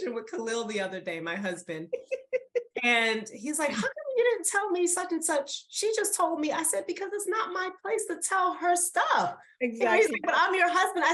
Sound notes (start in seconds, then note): 1.6 laughs